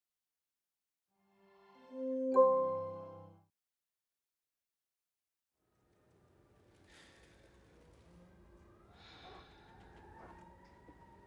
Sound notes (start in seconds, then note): 2.0 bell chimes; 8.8 heavy breathing